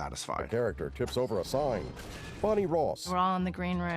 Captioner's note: crashing